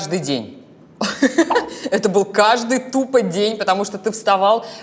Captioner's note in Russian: смеётся